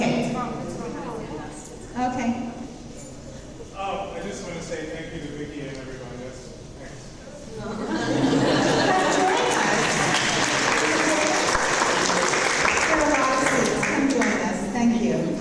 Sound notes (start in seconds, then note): 0.9 audience murmuring; 7.6 audience laugh and applause